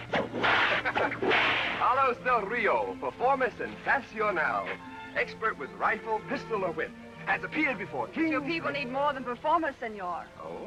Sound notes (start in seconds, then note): 0.1 laughs; 4.2 spanish